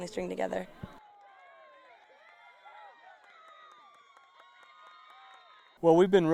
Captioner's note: cheering